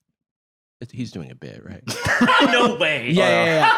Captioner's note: laughs